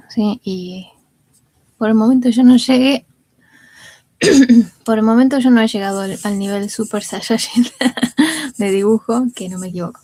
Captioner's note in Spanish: risas